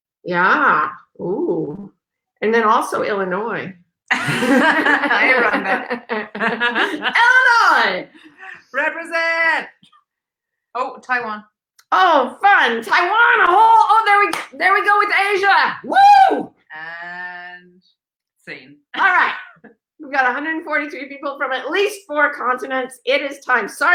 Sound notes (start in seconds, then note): 4.1 laughs